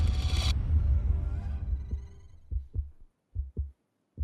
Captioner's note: heart beating